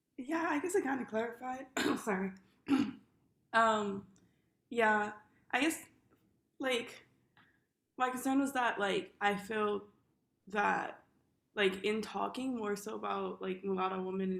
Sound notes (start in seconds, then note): 2.6 clears throat